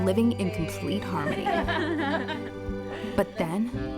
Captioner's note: laughter